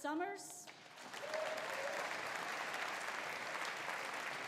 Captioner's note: audience applauding